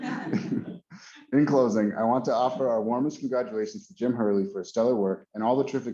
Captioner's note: laughter